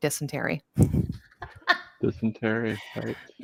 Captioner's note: laughs